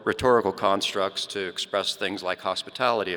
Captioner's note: none